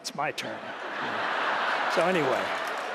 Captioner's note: laughter